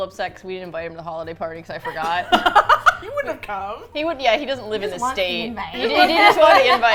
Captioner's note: all laugh